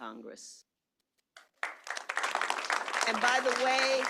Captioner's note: applause